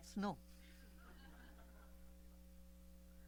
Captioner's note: laughter